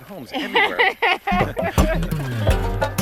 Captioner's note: Connie laughs; plucky music